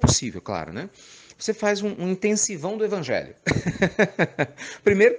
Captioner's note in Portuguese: Risos